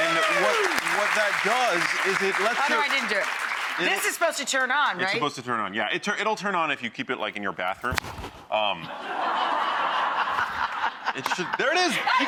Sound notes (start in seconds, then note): 8.8 audience laughs